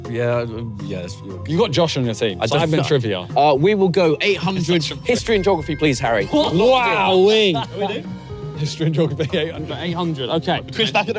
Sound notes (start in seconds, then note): 6.4 everyone exclaiming; 9.5 laughing